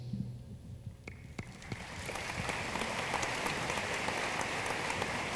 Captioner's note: room applauds